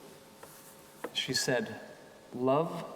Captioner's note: none